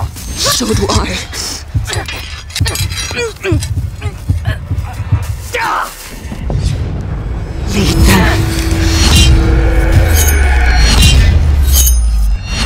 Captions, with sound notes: So do I. [metal clashing] [choking] [yelling] Lead them.